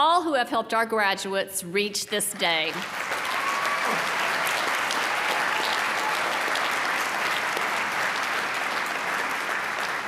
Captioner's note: applause